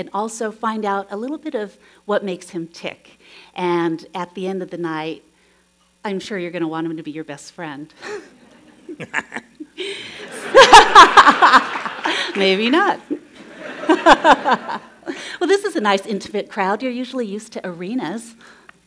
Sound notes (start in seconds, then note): 8.1 chuckles; 8.1 laughs; 10.0 laughter; 13.0 laughs